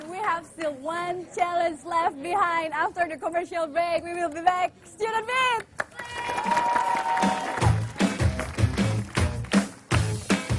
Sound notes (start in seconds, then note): 5.7 applause